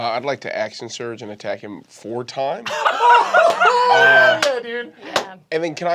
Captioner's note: laughing